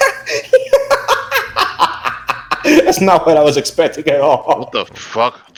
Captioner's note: laughs